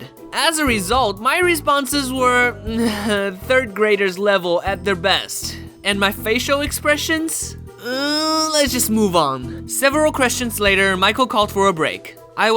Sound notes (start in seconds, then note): 7.8 sigh